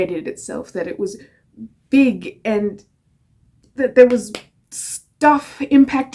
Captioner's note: slapping hands